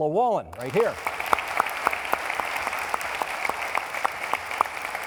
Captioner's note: applauding